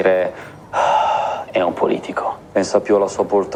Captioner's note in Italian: sospiro